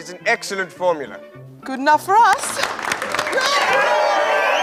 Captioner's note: applause and cheering